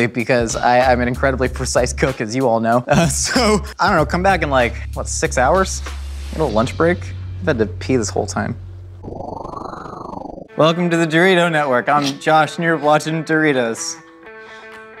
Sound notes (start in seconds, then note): 9.0 whoosh